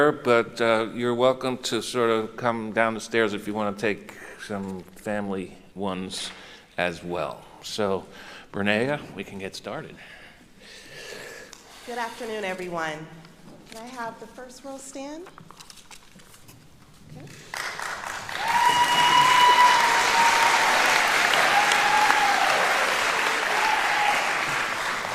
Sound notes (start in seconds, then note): 18.1 cheering; 19.2 indistinct chatters